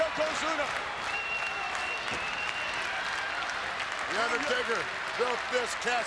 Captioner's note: applause